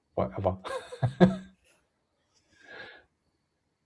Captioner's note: laughter